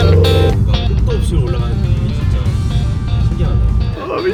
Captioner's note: engine speed